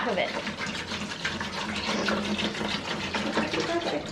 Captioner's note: water sloshing